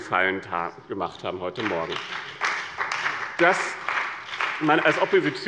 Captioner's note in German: Beifall bei dem BÜNDNIS 90/DIE GRÜNEN und der CDU